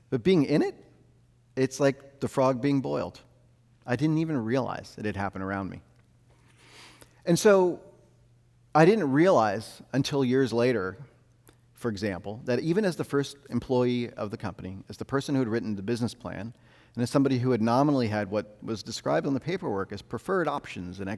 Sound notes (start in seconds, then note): none